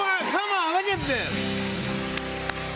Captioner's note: cheers and applause